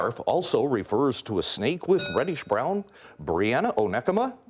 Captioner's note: bell rings